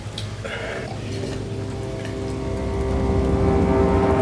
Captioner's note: slurping